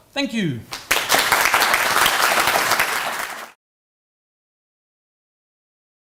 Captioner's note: applause